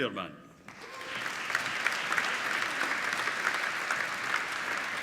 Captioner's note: applauding